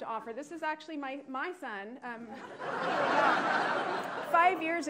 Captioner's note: attendees laughing